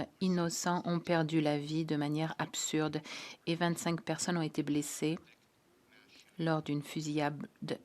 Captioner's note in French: voix de l'interprète